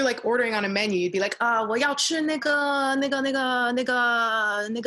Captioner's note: speaking Mandarin